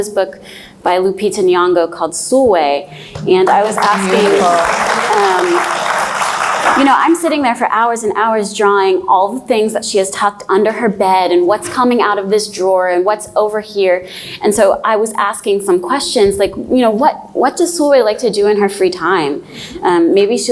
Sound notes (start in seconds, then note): 3.1 applauds